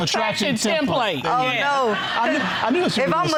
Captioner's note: audience laughing